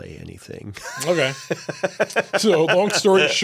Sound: Pedro laughing

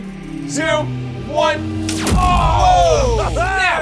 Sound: zapping noise

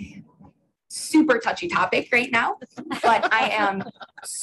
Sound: individuals laughing

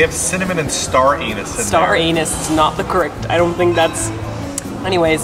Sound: none

